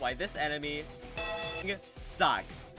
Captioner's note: bellring